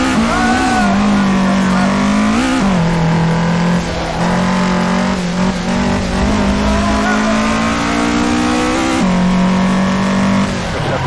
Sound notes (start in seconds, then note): 5.3 panic noises